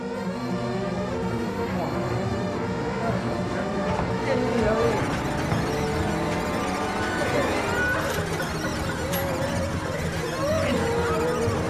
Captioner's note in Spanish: gritos y chillidos